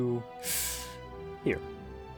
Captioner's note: deep inhale